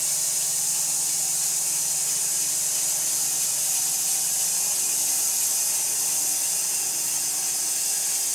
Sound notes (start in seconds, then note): 3.2 saw whirring